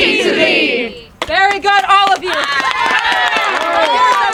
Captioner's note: audience cheering